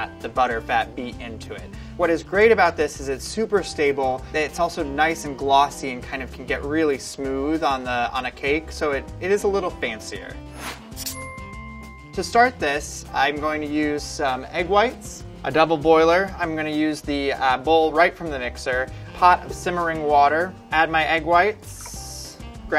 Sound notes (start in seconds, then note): 10.5 whooshing; 11.0 ringing